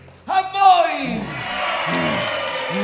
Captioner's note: crowd cheering